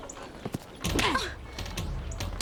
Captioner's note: smack